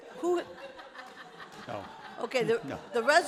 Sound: laughter

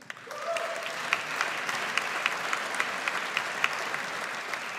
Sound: audience applauds

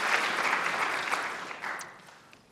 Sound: applause

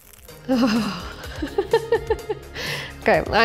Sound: laughs

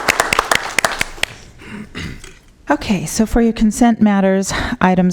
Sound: applause

